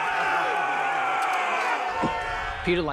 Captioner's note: all shouting